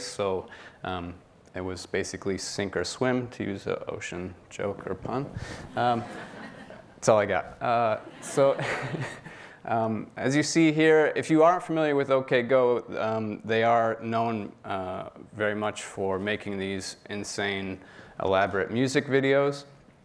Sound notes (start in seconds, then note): 5.6 audience laughing; 8.0 laughs